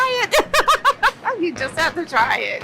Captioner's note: laughs